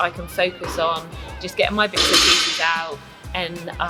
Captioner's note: impact